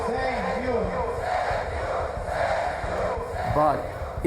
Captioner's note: crowd